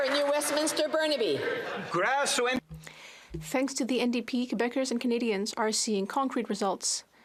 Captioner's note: some Applause